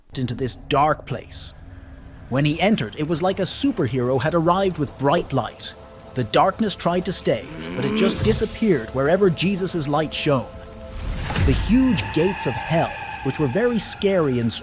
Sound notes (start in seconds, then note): 7.2 demon groans